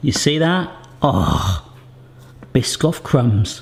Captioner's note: scoffs